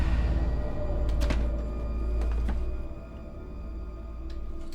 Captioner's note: dark eerie music; door clicks